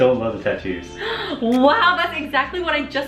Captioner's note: gasping